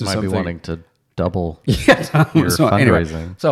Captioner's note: laughing